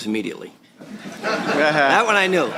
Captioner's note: laughter